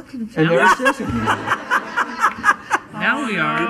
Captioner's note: laughing